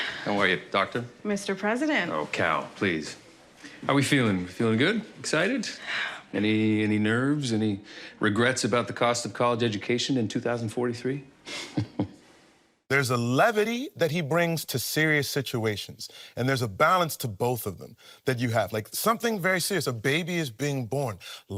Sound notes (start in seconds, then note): 5.7 Luisa sighs; 11.5 chuckles